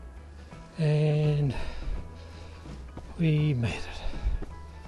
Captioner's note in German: schweres Atmen